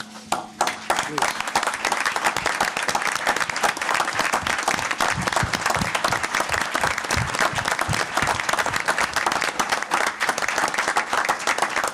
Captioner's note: applause